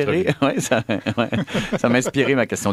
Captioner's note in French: rires